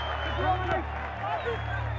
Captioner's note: whistle blows